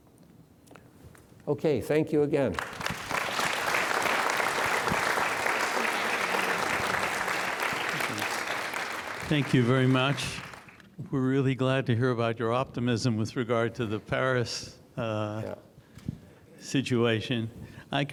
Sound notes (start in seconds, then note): 2.4 audience clapping